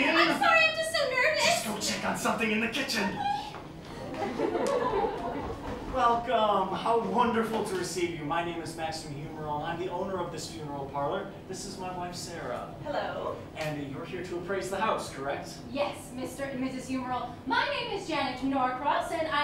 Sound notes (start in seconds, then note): 3.9 laughter